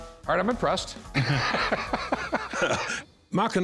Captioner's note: laughter